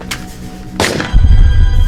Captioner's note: Disparo